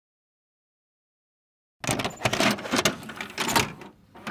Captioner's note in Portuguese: som de rolo de filme girando